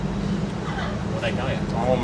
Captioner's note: laughter